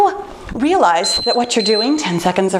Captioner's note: timer beeping